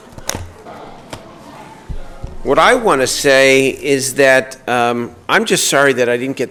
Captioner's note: gavel being struck